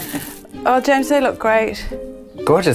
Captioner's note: laughs